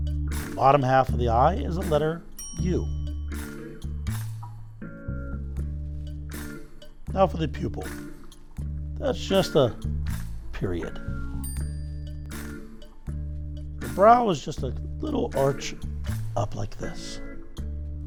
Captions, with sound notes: The bottom half of the eye is a letter u. (gentle music continues) Now for the pupil. That's just a period. (bell dings) The brow is just a little arch up like this.